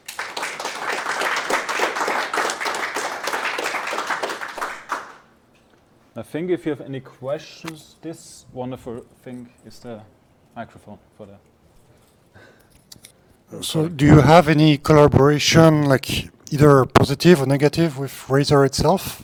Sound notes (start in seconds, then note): 5.0 applause